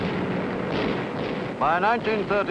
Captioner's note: airplanes buzzing; gunfire blasting